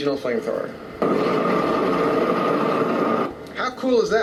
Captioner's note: bursting fire